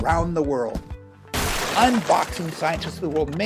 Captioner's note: crash